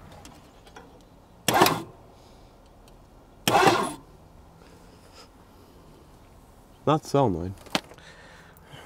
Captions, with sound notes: (vehicle engine hums) Not the solenoid.